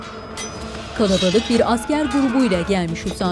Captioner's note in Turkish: Kılıç sesleri; Dövüş sesleri